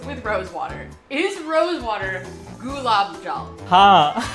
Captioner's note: Hindi; speaking in Hindi